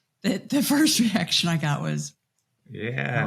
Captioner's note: chuckles